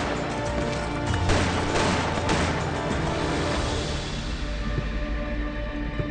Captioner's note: gunshots; soft mysterious music